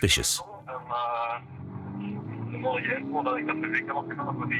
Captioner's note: French spoken audio